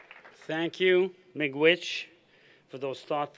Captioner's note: non-english